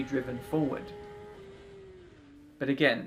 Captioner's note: engine roaring